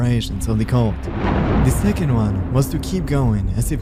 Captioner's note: thunder crackling